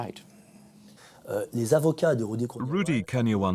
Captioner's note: non-english speech